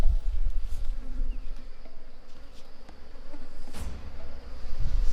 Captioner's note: flies buzzing